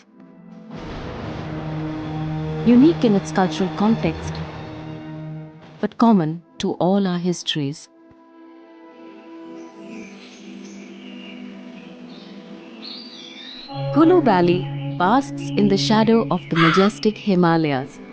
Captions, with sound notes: (gentle music) (car engine revving) Unique in its cultural context (gentle music) But common to all our histories. (gentle music) (birds chirpping) Kullu Valley basks in the shadow of the majestic Himalayas. (crow caw)